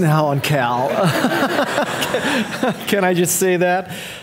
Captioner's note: audience laughing